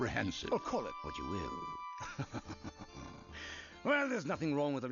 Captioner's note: laughs